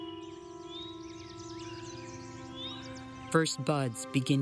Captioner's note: birds singing